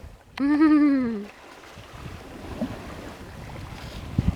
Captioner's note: laughing